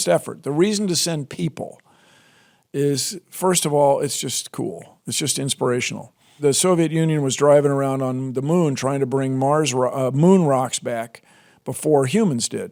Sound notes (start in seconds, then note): none